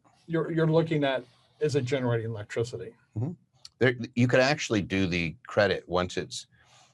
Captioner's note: none